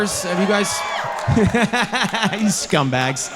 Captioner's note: audience cheering